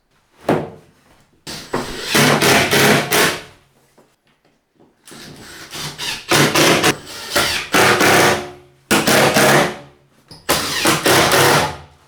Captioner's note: drilling